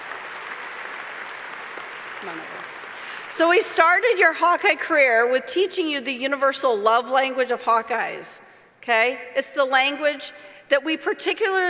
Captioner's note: applause